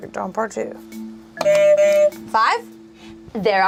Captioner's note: buzzer honks